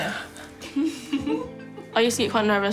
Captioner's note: all laugh